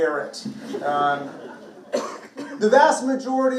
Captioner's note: participants laughing